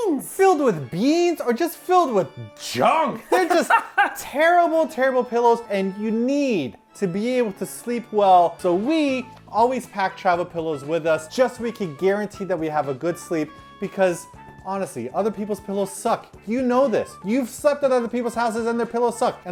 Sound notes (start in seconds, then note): 3.2 laughing